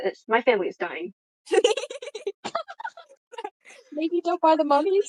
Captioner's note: others laughing